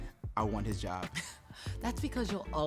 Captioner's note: laughs